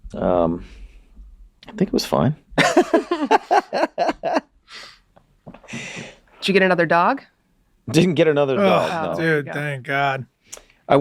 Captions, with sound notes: Um. I think it was fine. (both laughing) - Did you get another dog? - Didn't get another dog, no. - Oh dude, thank god.